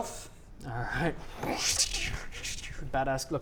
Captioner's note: brsshchkktsshchchxxcch